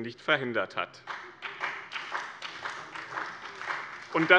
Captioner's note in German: Beifall bei dem BÜNDNIS 90/DIE GRÜNEN und der CDU